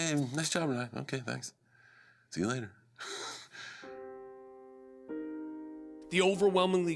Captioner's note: laugh